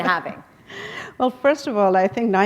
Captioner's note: chuckle